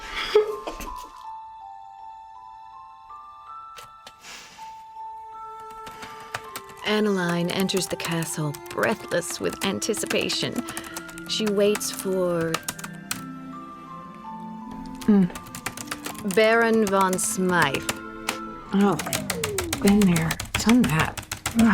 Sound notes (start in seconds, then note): 0.1 giggles; 3.9 inhales; 5.5 typing; 12.5 typing stops; 15.3 typing resumes